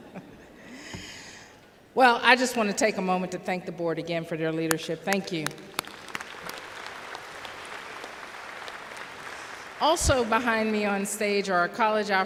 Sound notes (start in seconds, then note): 0.0 laughter; 5.1 applause